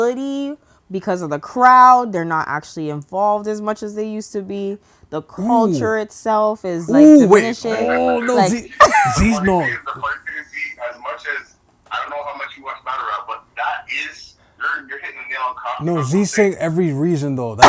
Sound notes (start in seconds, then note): 8.7 laughter